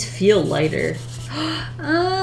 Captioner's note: gasps